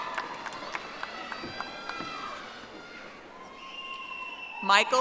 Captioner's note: audience applauding